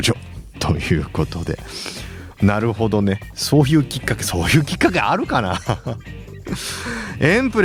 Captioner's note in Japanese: 笑い